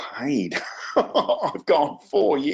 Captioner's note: laughs